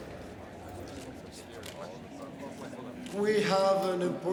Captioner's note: people chatter indistinctly; cameras click